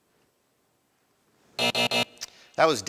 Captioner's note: buzzer buzzing